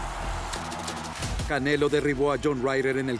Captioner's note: aplausos y aclamaciones